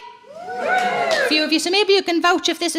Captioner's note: crowd cheering